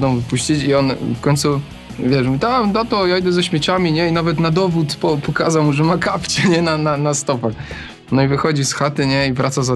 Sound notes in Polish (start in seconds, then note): 6.3 śmiech